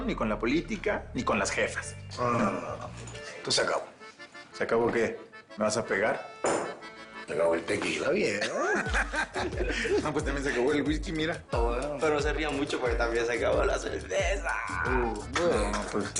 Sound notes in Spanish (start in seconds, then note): 8.3 Risas